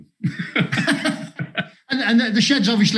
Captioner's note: both laughing